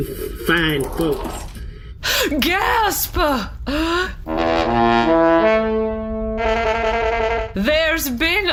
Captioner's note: horn blows